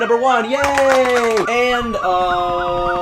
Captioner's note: sirens continue to grow louder; claps; chopper noises start